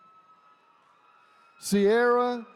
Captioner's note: attendees cheering